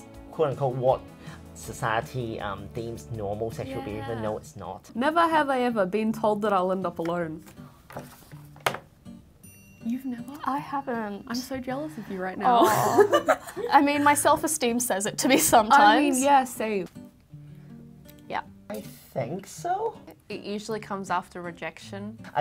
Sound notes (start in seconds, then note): 12.6 laughs